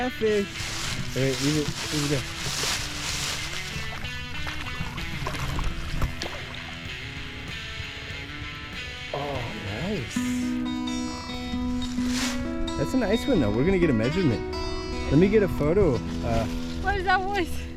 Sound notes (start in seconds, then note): 5.2 water splashes